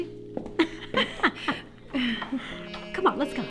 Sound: both laugh

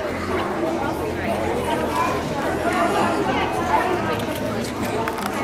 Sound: loud background chatter

